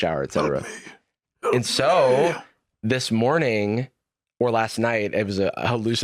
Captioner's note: wheezing